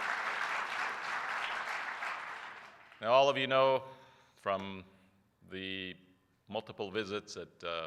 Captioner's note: applause